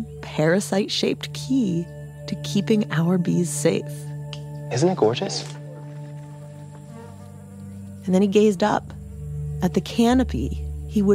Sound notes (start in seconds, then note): none